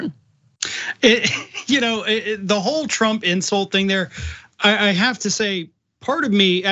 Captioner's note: laugh